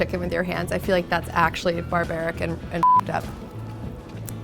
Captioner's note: beep